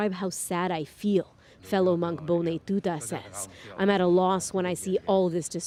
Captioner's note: speaking alternate language